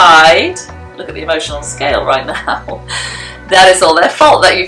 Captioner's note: chuckles